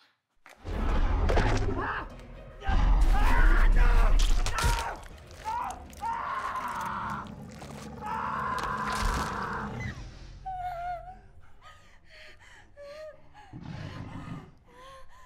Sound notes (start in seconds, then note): 0.5 dinosaur growls; 2.8 man screams; 5.4 man screams; 8.3 dinosaur growls; 11.1 woman breathes heavy